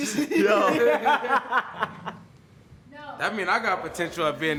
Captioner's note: laughter